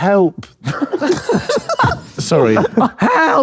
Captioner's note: group laughing